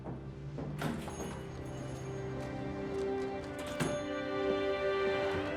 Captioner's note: doorbell jingling